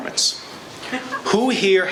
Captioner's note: laughing